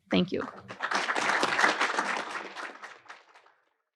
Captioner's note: attendees applaud